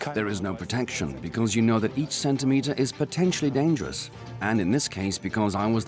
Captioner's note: dubbed in English